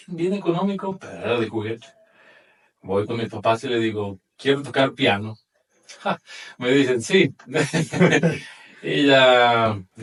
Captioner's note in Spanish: risas